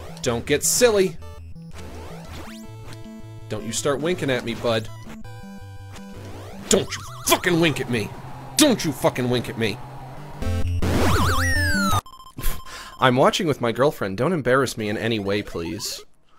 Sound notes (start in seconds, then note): 10.3 game warbles; 12.3 scoffs